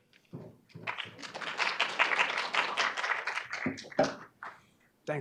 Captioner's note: audience clapping